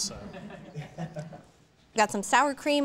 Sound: audience chuckling

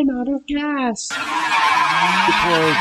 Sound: agressive drifting sounds

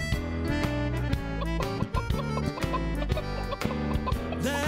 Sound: clucking

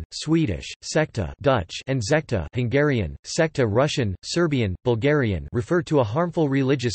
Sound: Hungarian

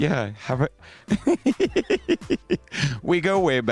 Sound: Conrad laughing

